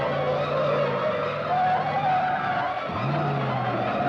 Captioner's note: tires squealing